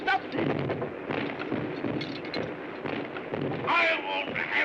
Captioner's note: soft explosions